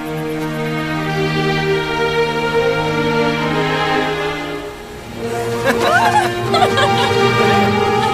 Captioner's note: both Laughing